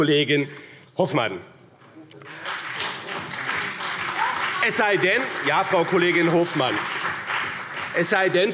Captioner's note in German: Beifall BÜNDNIS 90/DIE GRÜNEN und CDU